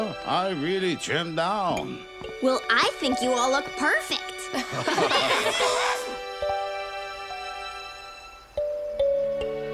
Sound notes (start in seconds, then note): 4.5 laughing